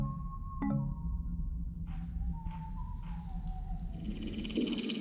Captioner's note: a guard whistling a tune; peculiar sounds of enchanted forest